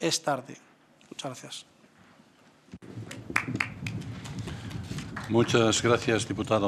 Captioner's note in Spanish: Aplausos